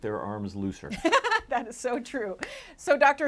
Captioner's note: laughing